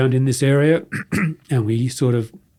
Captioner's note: clears throat